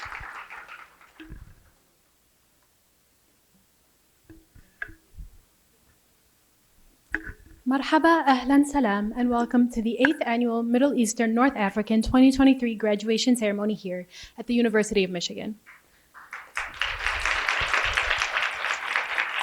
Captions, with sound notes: - (foreign language) And welcome to the eighth annual Middle Eastern, North African 2023 graduation ceremony here at the University of Michigan. (applause)